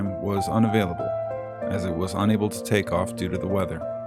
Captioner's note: none